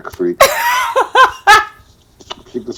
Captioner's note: laughing